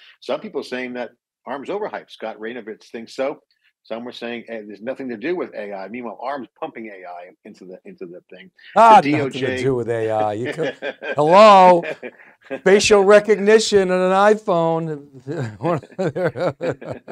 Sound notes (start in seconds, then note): 10.0 laughing; 15.2 laughing